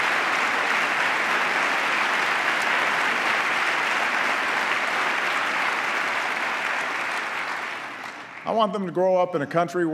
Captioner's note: applause